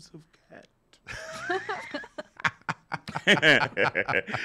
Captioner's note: laughs